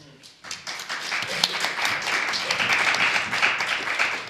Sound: audience applauding

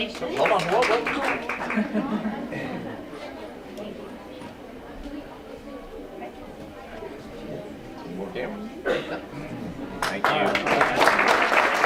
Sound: applause

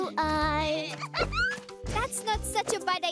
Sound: laughing

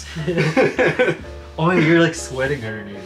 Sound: laughing

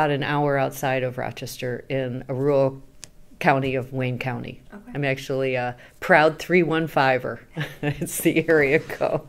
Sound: laughs

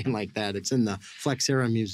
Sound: laughs

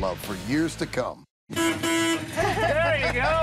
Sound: horn

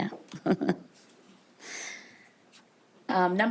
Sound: person laughing

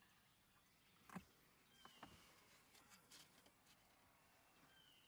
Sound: birds chirping in distant

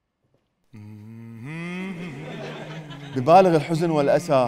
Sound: humming sad music

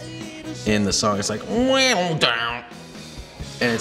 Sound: imitates guitar

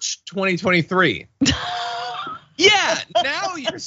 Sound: laugh

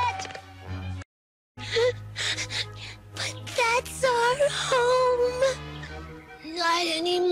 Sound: sobs

